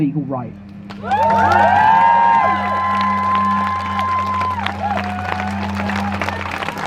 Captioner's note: crowd Cheers